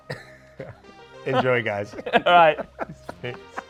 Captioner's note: chuckles